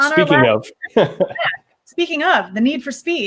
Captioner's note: laughs